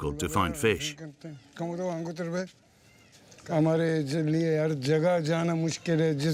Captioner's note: speaking foreign language